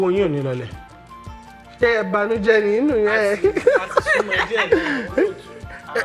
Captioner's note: laughs